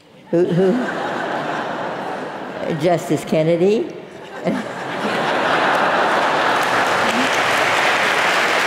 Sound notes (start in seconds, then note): 4.2 laugh; 5.5 applause